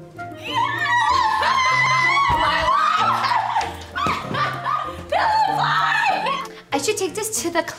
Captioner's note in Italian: urlano e ridacchiano